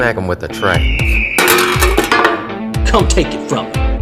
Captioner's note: EAGGLLEE and tray noise